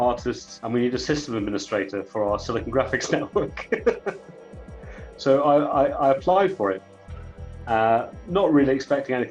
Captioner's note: laughs